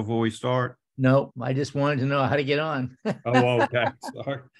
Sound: laughs

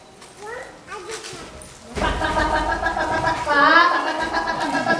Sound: chicken call

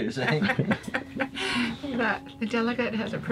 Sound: laugh

